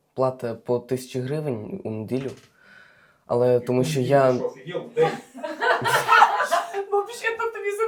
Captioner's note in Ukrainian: сміх